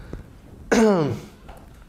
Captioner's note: cough